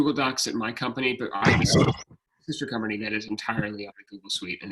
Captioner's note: speaking faintly